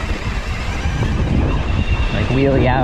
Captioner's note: bike humming; wind gushing